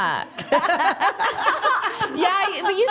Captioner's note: all laughing